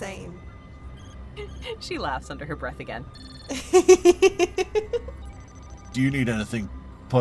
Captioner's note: laughs